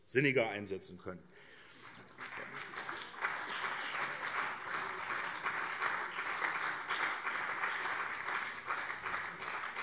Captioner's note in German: Beifall CDU und SPD